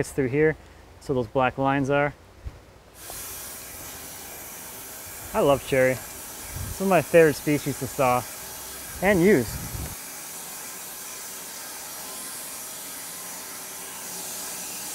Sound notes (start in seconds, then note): 3.1 saw running; 10.3 saw running